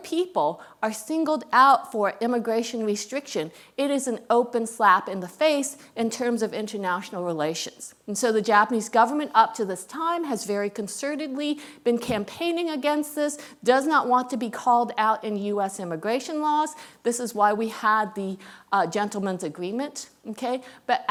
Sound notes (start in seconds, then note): none